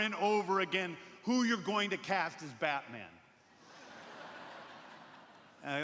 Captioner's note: laughter